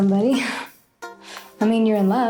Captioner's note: Alice laughing